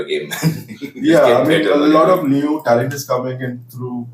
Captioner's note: laughs